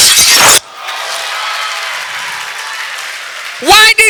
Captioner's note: audience Applause